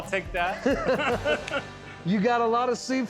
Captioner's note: laughter